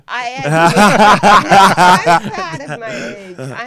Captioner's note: laughing